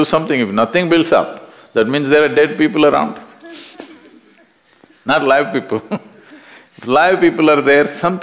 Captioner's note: laughter; 笑聲